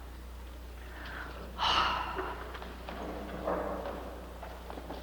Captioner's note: Mrs. Hepp sighs